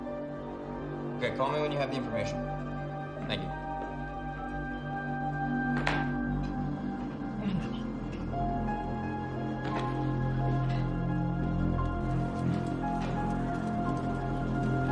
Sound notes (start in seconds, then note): 7.2 sighs